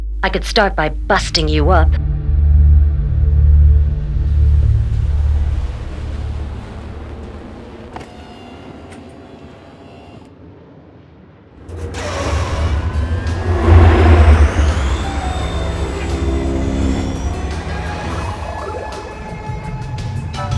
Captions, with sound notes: I could start by busting you up. (Engine roaring)